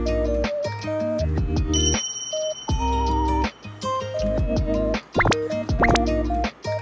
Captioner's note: munch munch